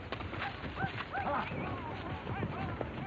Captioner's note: horses trotting